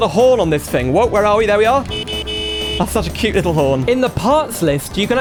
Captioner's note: car Horn Sounds